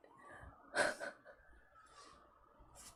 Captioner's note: laughs